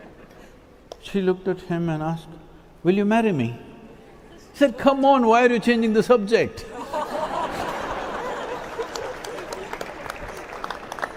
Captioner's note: laughs; cheering/Applause